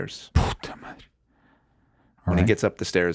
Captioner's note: Jaime speaking Spanish